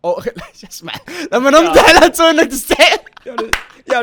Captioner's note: laughs